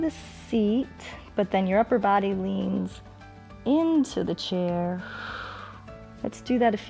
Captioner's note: exhales